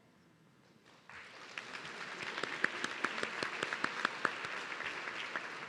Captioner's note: audience clapping